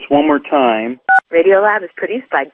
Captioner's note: beep